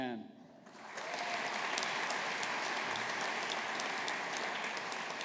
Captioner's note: audience applauding